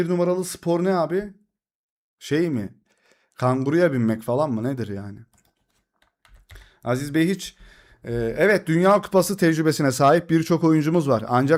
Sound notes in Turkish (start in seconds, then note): none